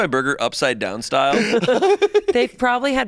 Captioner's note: laughs